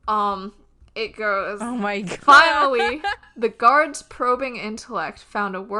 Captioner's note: laughing